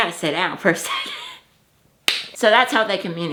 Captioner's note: laughs